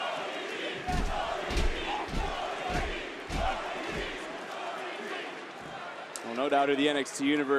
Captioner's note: crowd cheers